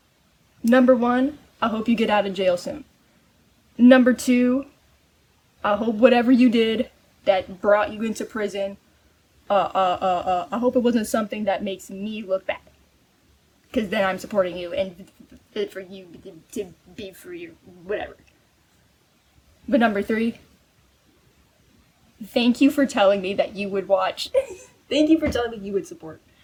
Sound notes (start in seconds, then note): 15.4 stammering; 17.0 more stammering; 24.3 giggling